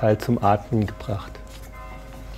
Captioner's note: bell ringing